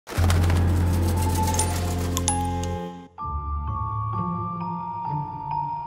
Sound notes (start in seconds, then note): 1.5 sinister sounds; 3.4 eerie music playing